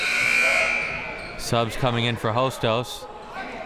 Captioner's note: buzzer sounding